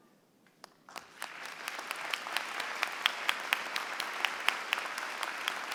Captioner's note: applause